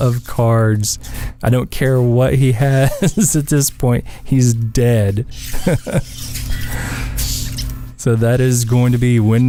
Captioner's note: haha